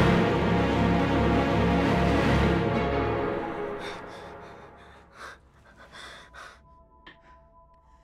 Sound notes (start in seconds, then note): 3.4 heavy breathing